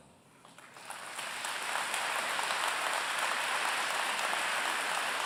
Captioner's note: applause